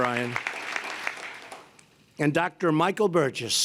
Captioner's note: applause